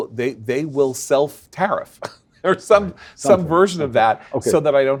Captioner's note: laugh